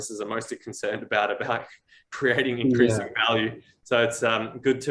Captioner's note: chuckles